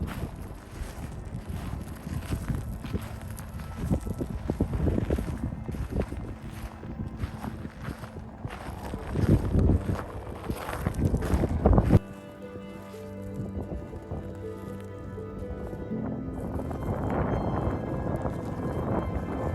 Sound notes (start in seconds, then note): 9.2 sound of walking and wind